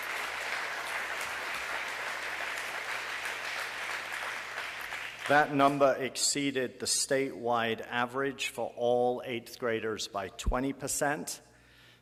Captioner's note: applause